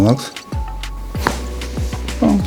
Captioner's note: crunches of bones